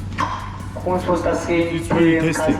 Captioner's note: announcer speaks in foreign language